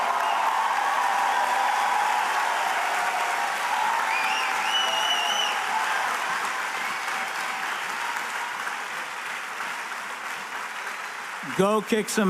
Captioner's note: cheers and applause